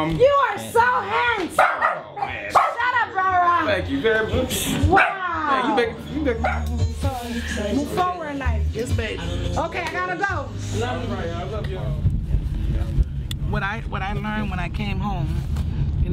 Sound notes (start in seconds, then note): 1.5 dog barking; 4.9 dog barking